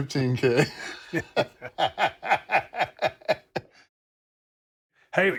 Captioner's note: laugh